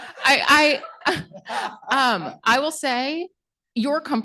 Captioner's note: laughter